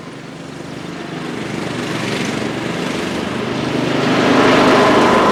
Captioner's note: tractor engine